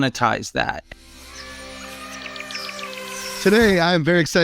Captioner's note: birds chirping; elephant trumpeting